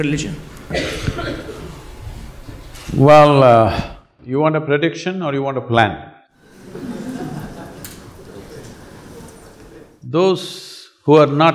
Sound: laughter

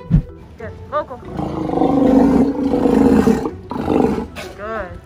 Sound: sea lion roars

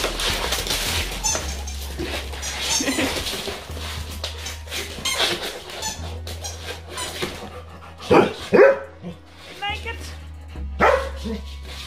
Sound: Max barks

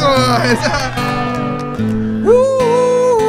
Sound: applause

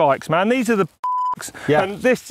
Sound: beep

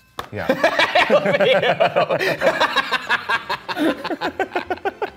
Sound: laughing

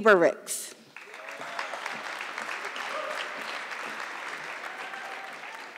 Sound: audience clapping

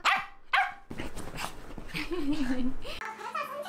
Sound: laughing

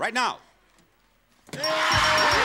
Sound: bell dinging

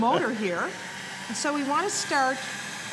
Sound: motor whirring

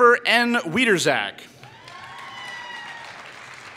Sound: applause

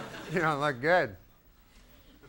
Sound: audience laughing

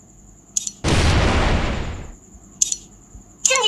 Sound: explosion sounds

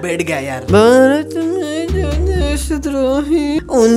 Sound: hums the song

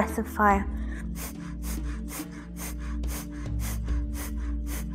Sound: huffing

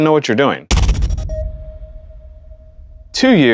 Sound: thud and beep

